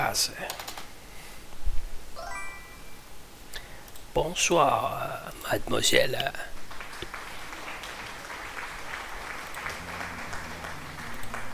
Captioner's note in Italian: Applauso